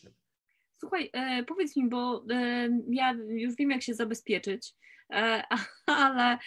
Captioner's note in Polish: śmiech